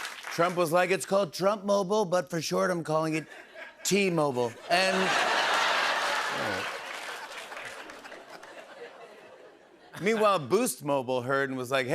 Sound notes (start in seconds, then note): 5.4 laughter